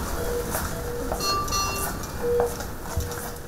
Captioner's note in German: Maschinen piepen